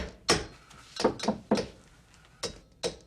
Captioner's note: tap tap tap; tapping echoing